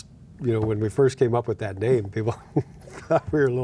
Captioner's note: laughing